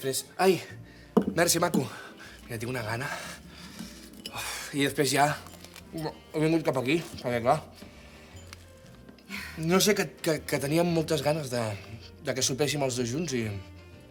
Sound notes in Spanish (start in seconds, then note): 5.4 Mastica